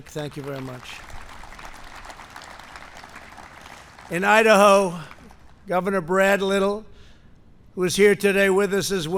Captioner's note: applause